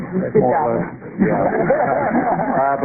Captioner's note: laughter